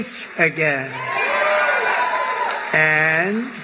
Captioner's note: applause